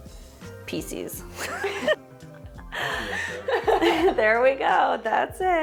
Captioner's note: laughing